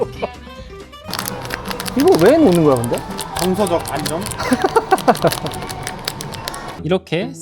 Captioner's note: squish